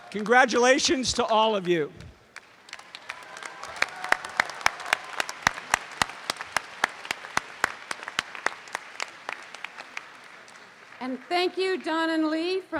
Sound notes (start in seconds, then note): 2.3 audience applause